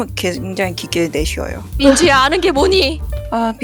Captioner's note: laugh